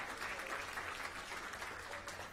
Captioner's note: applause